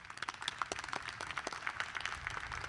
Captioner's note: applause